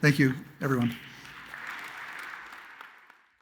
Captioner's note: audience applauds